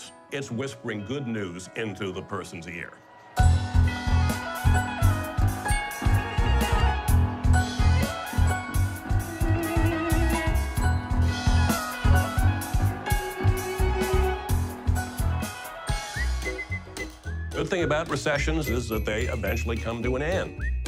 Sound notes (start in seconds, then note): 15.8 whistling